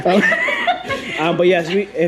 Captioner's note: laughs